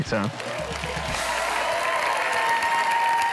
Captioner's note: cheering and applause